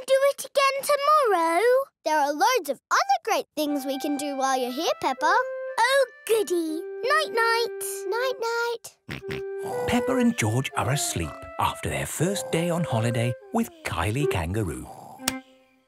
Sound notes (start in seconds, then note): 9.6 snores; 9.6 snorts